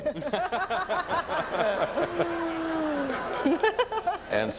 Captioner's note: audience laughs